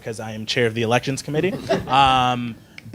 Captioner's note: laughing